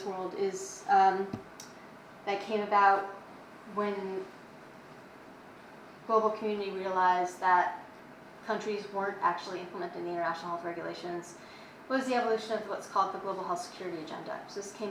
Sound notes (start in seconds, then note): none